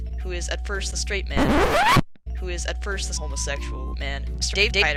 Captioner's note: record scratch